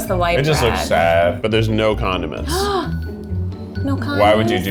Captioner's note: gasps